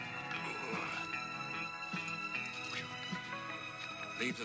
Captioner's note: Dan groaning